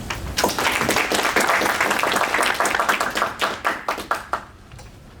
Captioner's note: applause